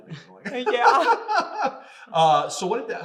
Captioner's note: laughing